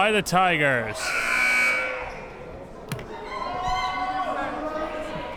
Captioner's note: buzzer blares